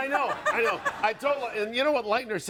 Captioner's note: audience laughing